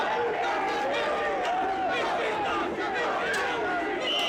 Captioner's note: fan chanting